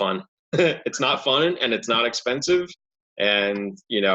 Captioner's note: giggles